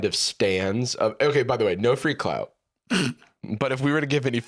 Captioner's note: snorts